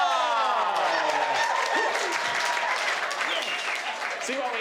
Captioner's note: crowd cheering